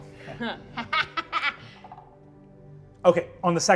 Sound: laughs

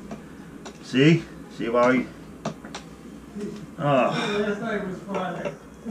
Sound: sigh

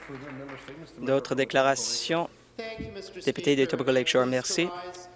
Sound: some applause

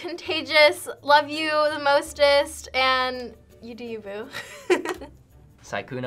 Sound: laughs

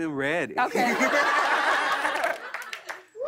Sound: laughter

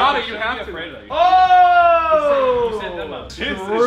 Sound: cheering

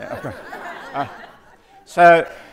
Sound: audience laughing

